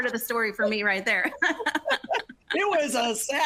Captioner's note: both laughing